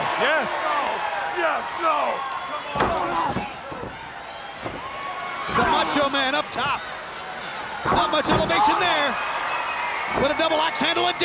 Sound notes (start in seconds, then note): 2.6 wrestler screaming; 2.7 body slamming